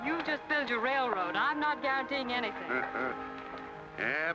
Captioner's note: Cyrus chuckles